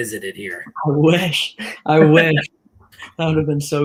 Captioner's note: laughter